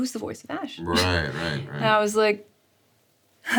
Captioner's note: Sarah chuckles